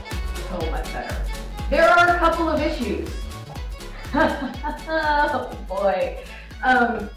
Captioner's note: nervous laughter